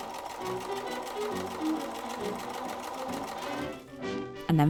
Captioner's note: machine whirring